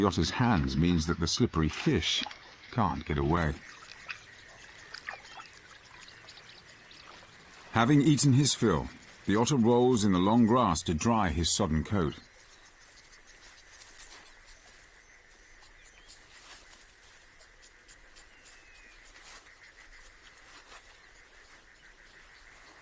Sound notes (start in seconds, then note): 0.3 birds chirping; 0.3 insects chirping; 8.6 birds chirping; 8.6 grass rustling